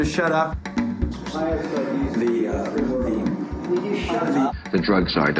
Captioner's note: voices arguing